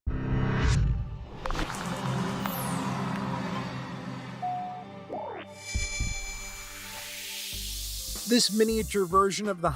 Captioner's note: tech sounds